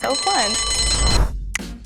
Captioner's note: bell rings; woosh